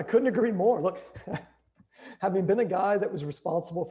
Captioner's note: chuckles